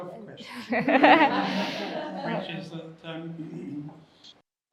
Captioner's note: attendees laughing